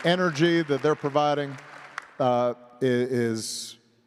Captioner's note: applause